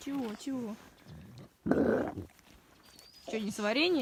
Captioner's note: brups